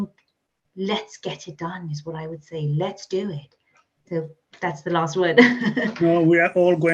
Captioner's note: laughs